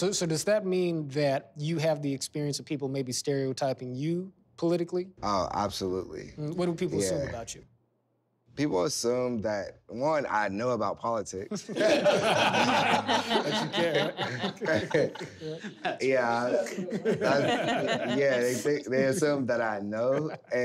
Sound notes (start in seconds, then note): 11.5 laughter